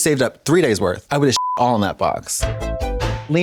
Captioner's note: beep